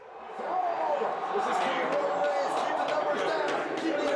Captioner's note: crowd cheers; teammate claps